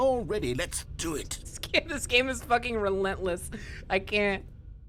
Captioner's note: laughing